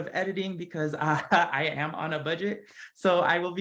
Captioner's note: laugh